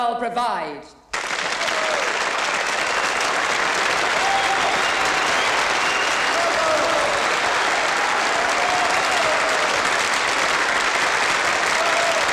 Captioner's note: applause